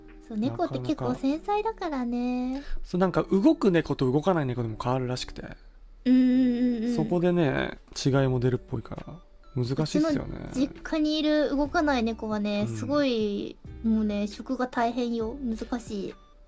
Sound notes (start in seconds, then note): none